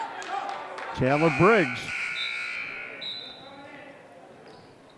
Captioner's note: buzzer sounds